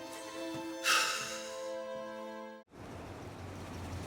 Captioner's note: sighs angrily